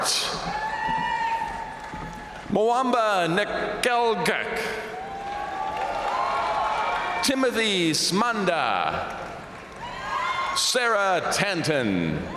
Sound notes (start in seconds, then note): 0.0 crowd cheering; 0.1 crowd applauding; 4.6 crowd cheering; 4.8 crowd applauding; 8.8 crowd cheering